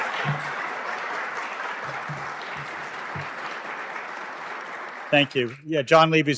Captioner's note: applause